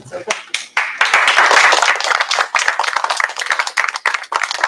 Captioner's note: applause